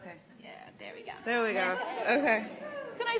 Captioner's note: laughs